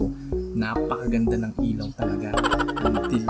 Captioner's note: sarcastic